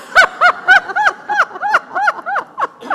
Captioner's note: laughs